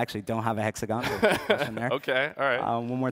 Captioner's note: laughs